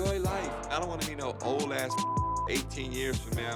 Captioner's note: beep